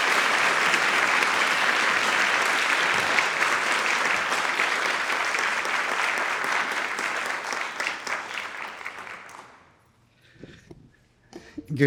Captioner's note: attendees applauding